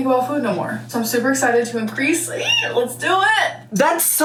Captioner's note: squeals